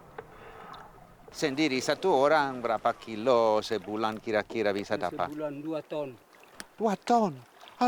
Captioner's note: man speaking Austronesian language; speaking Austronesian language